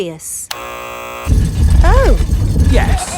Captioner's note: buzzer sounds